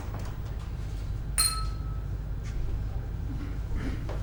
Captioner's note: ding